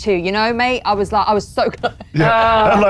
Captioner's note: laughs